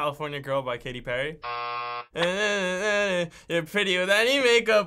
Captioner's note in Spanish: buzzer; murmurando